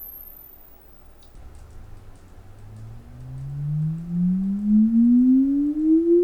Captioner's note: frequency sweep